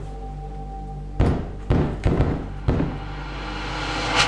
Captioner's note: knocking